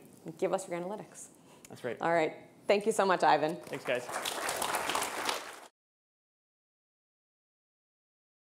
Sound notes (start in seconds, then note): 3.6 audience applauding